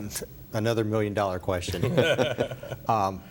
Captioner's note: laughter